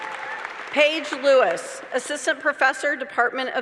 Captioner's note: applause